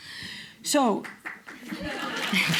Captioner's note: applause; laughter